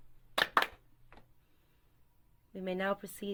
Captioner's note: brothers clap twice